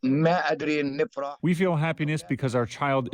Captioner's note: through translator